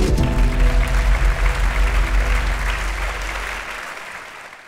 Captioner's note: audience clapping